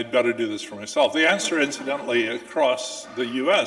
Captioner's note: audience laughing